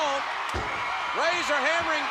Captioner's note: spectators cheering